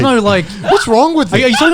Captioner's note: chuckling